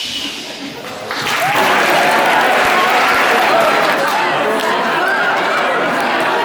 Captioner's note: crowd chuckling; crowd clapping and cheering; crowd chattering